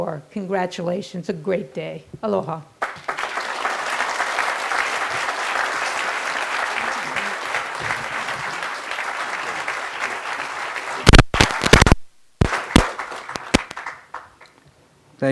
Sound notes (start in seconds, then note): 2.8 crowd applause